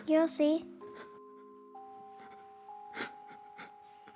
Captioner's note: Frank crying